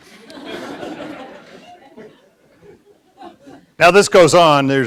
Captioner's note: audience laughs